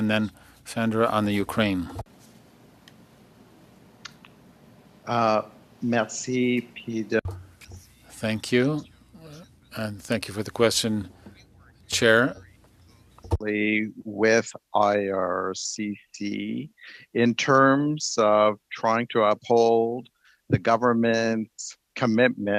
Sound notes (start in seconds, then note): 10.1 speaking French